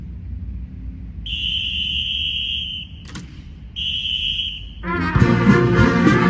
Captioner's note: whistle blows; energetic band music